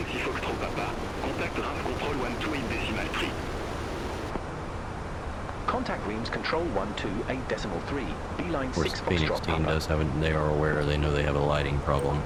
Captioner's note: radio chatter